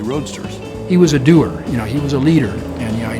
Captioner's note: pat